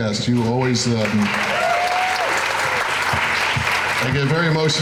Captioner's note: crowd cheering